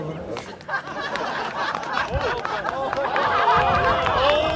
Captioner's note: audience laughs